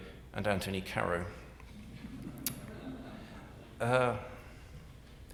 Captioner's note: audience laughing